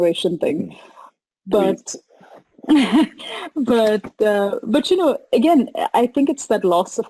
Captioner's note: chuckles